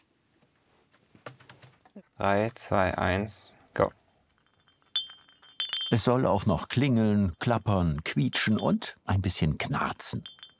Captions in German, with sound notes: Drei, zwei, eins, go. (Klimpern) Es soll auch noch klingeln, klappern, quietschen und ein bisschen knarzen.